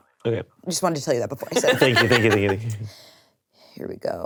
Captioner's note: laughing